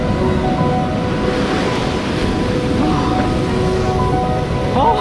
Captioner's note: orchestral music; waves crash